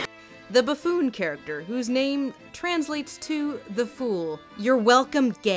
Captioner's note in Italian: voce fuori campo